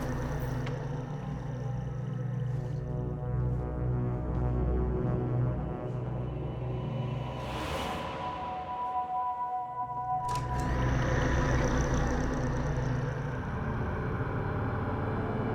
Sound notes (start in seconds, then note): 10.3 closet door creaks